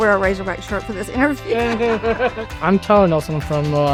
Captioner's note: laughs